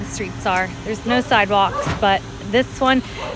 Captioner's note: engine revving